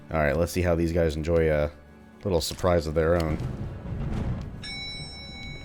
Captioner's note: elevator dings, enemies alerted